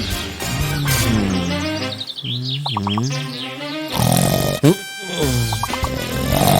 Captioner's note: a longer snore; a tiny snore